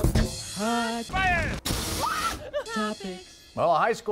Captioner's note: laughter